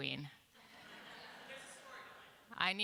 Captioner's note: laughter